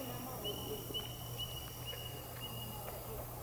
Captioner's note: katydids forest sounds